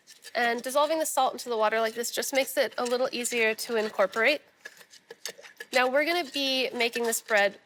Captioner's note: none